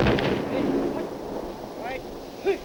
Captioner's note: speaking faintly